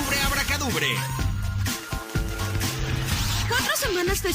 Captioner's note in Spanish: sonidos de magia